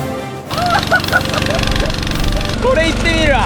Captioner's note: laughing too much